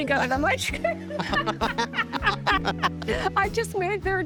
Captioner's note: both laughing